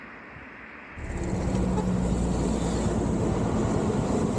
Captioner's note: traffic noise